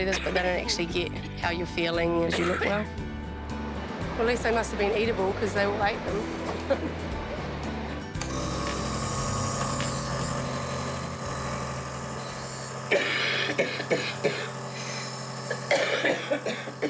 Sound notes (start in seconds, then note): 2.2 coughs; 6.6 laughs; 8.3 machine whirrs; 12.9 coughs